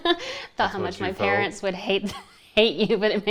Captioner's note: laughs